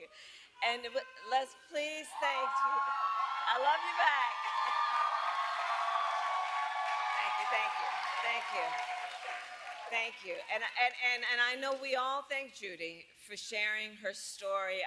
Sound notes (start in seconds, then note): 3.0 applause; 5.3 laughs